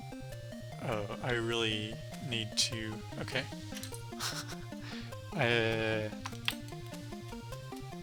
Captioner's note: laughs